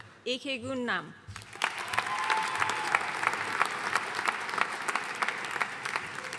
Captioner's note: audience cheering and applauding